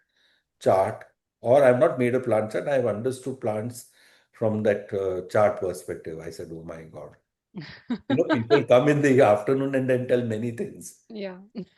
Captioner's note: laughter